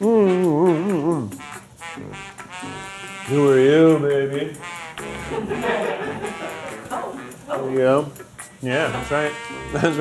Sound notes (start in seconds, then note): 1.5 lively jazz music; 5.3 crew laughing